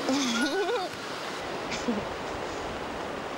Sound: laughs

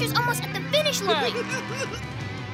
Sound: laughing

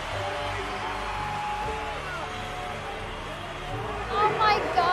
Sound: crowd cheering

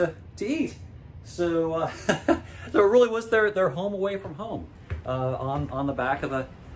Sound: laughs

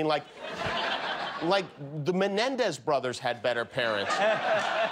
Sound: laughter

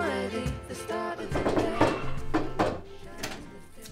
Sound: door knocking

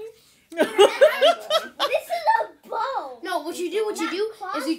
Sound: laughter

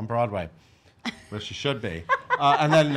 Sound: laughs

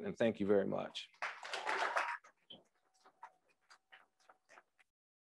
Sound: crowd applauds

